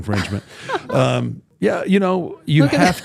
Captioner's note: host laughs